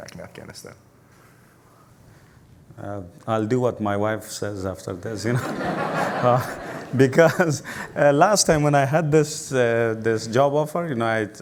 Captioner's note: laugher